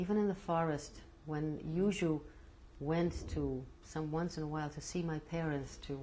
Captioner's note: non-english